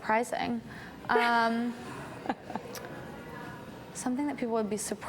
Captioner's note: laughs